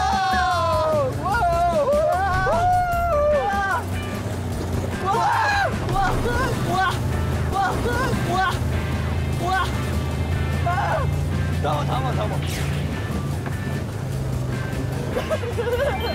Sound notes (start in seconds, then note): 5.1 splash once again; 15.0 giggling